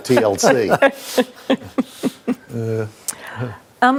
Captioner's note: all laughs